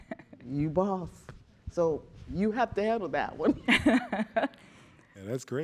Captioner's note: chuckling